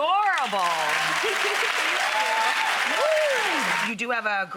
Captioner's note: audience claps, cheers